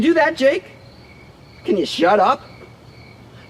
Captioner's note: none